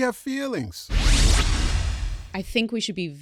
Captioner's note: electronic whoosh